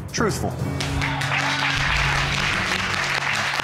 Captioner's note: audience clapping